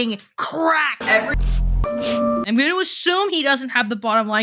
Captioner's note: camera lens rustling